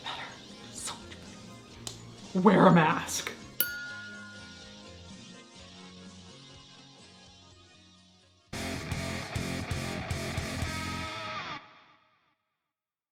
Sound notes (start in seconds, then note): 3.6 bell chimes; 5.3 rock music